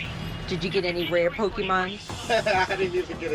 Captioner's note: laughs